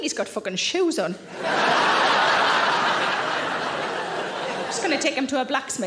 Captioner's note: audience laughing